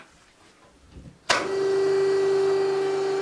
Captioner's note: machine noise